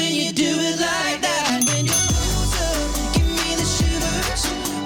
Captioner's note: ding ding!